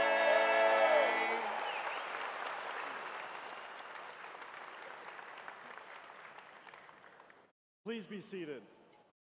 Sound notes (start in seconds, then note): 6.6 cheers and applause